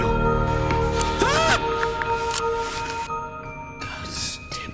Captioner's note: yelling; ghostly Voice